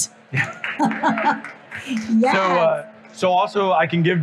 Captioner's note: audience applauds